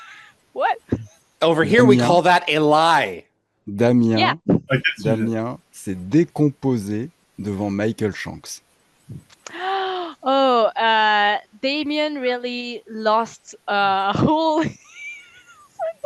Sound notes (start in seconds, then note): 6.3 translating from French